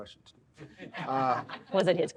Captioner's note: audience laughs